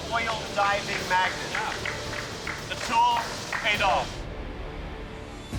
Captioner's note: all clapping